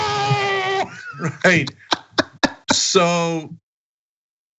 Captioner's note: laugh